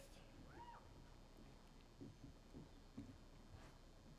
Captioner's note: attendee cheers